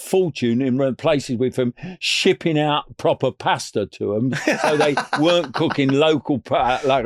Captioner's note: laughing